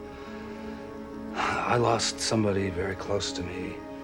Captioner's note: sighs